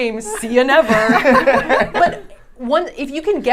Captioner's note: laughing